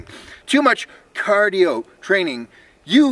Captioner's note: sarcastic tone